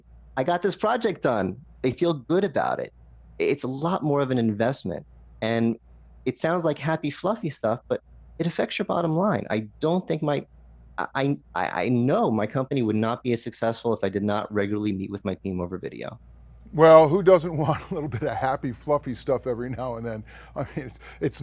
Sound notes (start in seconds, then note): 16.8 laughing